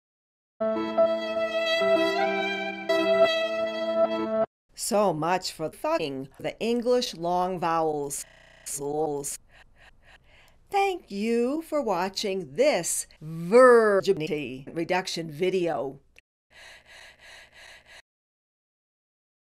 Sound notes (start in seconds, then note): 16.5 heavy breathing